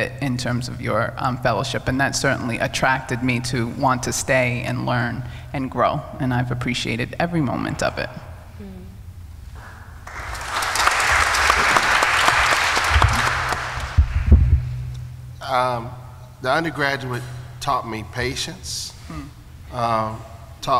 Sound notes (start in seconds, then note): 10.0 applause